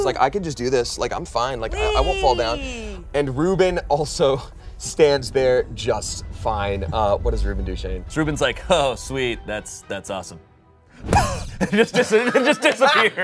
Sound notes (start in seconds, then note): 11.0 blows; 11.5 everyone laughs